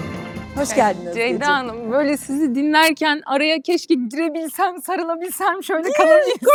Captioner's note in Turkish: kahkaha